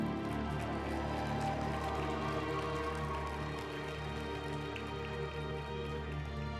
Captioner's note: group applauding; uplifting music